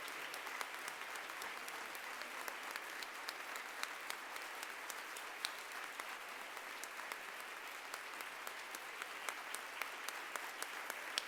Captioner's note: applause